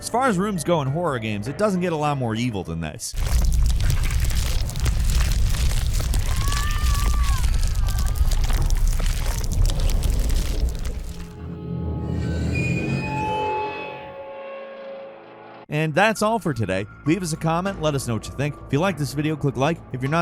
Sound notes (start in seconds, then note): 3.1 squelching; 6.4 yelling; 12.3 tense music